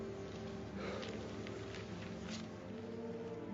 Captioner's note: sighs